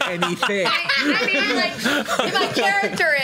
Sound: laughs

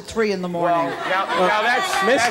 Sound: audience laughing

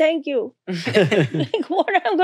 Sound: all laughing

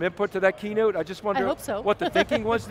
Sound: laughs

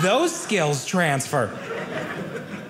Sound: audience laughing

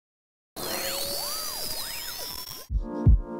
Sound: static

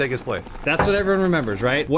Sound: bonk

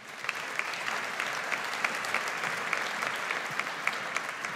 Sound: audience applauds

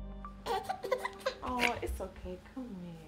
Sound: baby crying

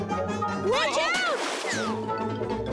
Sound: yells

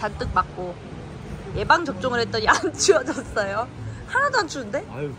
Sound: stronger wind

